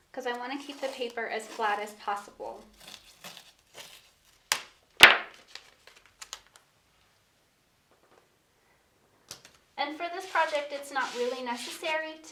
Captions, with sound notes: 'Cause I wanna keep the paper as flat as possible. (masking tape rustling) (masking tape clatters) And for this project it's not really necessary